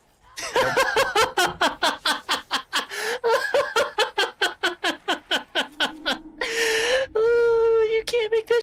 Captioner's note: laughing